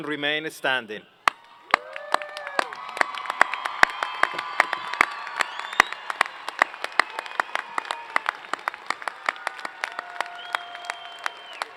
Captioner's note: applause